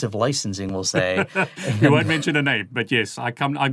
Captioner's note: chuckles